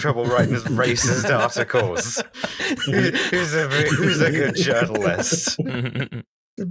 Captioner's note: laughter; babying voice